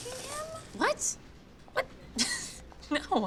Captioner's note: laughs